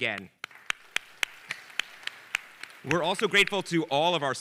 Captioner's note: audience applauding